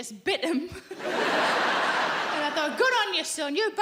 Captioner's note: audience laughing